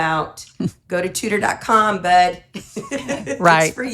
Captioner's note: laughs